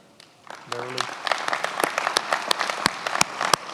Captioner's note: many applauding